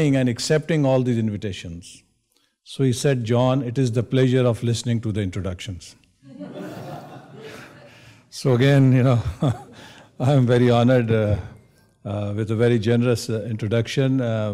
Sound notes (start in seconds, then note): 6.3 audience laughs